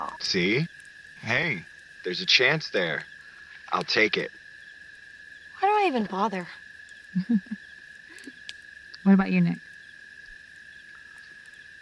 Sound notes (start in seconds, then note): 7.1 Dawn Laughing